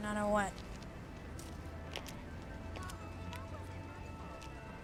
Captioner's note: shoes clacking